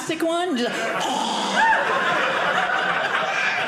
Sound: audience laughing

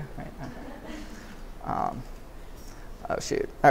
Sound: laughter

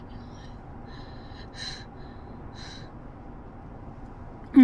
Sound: breathing

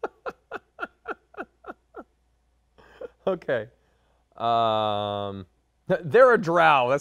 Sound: laughs

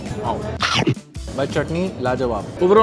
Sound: munching

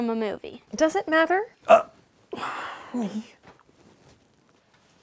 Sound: sigh

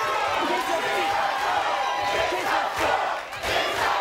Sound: crowd Chanting

